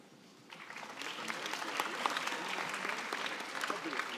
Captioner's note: applause